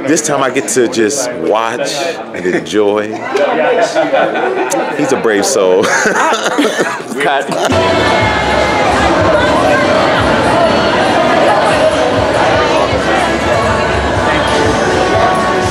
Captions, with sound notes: This time I get to just watch and enjoy. He's a brave soul (laughs). - I, cut. (crowd murmurs)